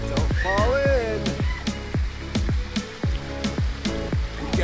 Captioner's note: upbeat music; water rushing